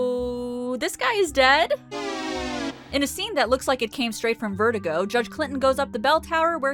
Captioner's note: wah wah sound effect